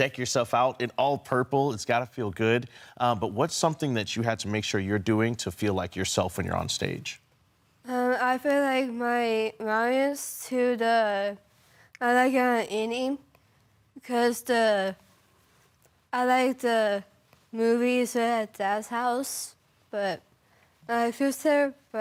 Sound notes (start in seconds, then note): 15.2 rustling